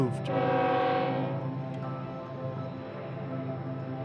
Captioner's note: train horn blaring